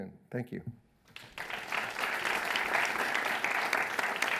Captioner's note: audience applauding